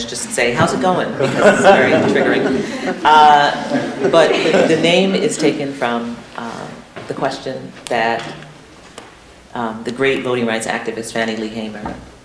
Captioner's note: laughter